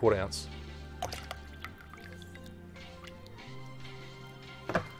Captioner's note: liquid running